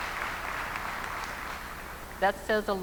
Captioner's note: applause